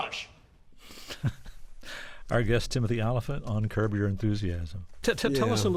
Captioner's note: laughter